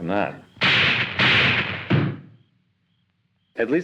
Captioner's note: gunshots; thuds